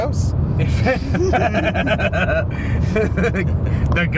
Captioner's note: all laughing